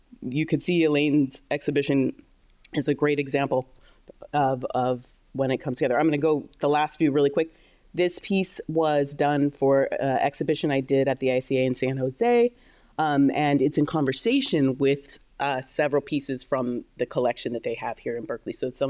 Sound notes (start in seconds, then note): none